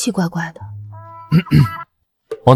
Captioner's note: cough cough